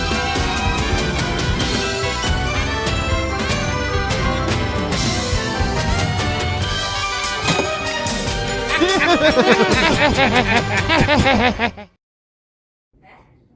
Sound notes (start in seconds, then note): 8.6 laughing